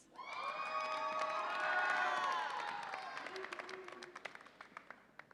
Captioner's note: audience applauds and cheers